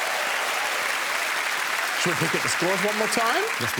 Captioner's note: applause